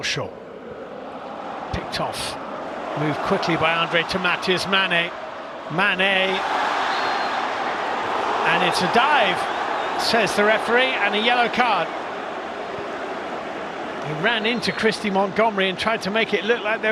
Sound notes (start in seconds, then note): 8.5 audience oohs; 9.1 cheers and applause; 9.7 crowd noise